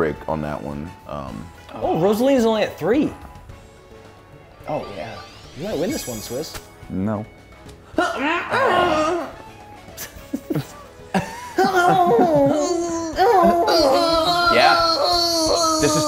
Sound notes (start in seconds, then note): 8.0 laugh